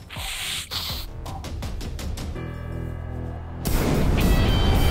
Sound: blowing nose

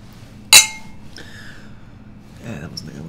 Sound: clanks glass

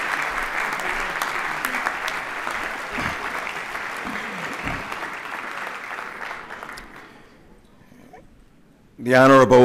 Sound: applause

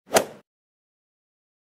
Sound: swoosh

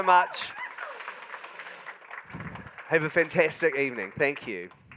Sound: audience whooping and applauding

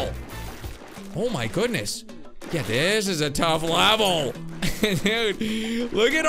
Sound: laughs

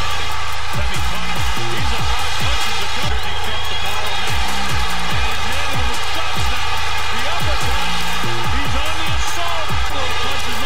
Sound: crowd noise

